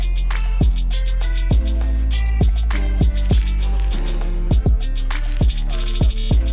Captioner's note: upbeat music; tape unwrapping